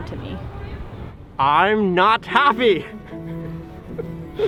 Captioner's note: laughing